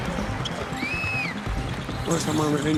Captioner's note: crowd cheering; whistling